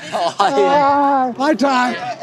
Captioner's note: chuckling